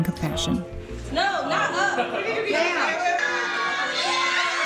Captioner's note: background noise, cheering